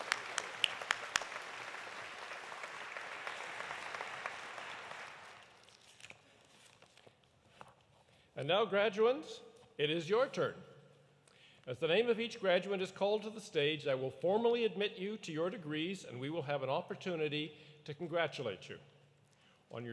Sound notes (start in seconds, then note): 3.2 applause continues